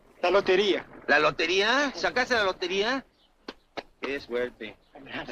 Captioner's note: driver speaks Spanish; officer speaks Spanish